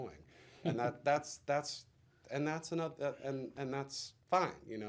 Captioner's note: interviewer laughs